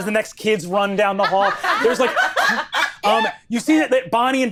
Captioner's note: all laughing